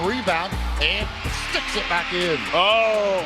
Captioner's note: fans cheering